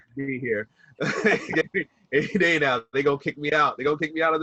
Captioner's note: laughs